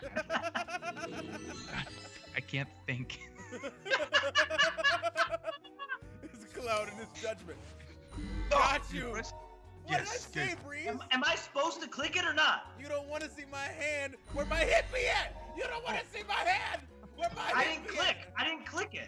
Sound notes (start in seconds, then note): 0.6 laugh